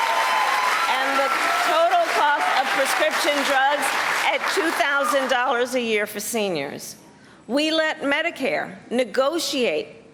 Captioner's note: cheers and applause